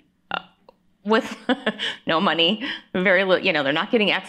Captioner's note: laughing